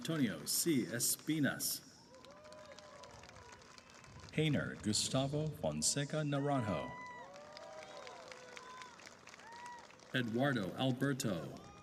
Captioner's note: applause and cheering